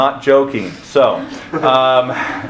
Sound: crowd laughing

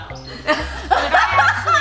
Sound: laughing

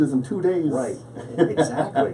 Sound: laughs

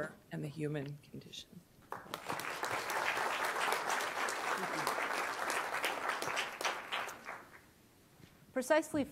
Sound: applause

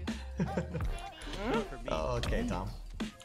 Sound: laughing

